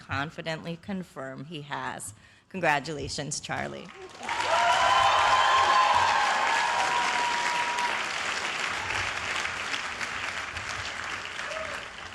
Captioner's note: cheers and applause